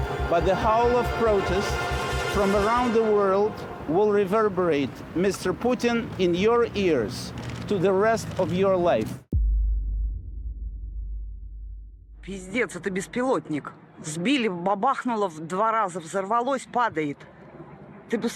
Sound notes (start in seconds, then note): 9.3 deep boom resonates; 13.1 person speaks in Russian; 13.1 plane roars